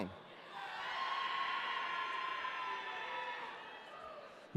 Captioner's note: audience cheering